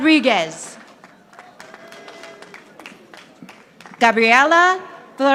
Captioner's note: audience applauding